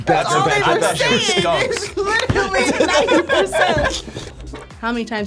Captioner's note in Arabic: الجميع يضحكون